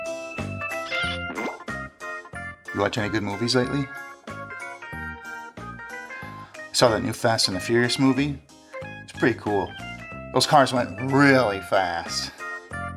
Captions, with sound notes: [unnecessary sound effects] You watch any good movies lately? I saw that new Fast and the Furious movie. It was pretty cool. Those cars went really fast!